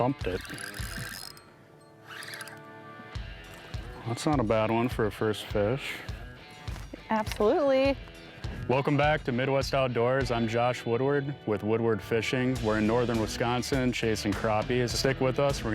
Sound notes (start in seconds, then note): 0.0 line whirring